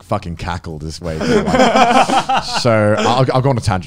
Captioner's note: laughs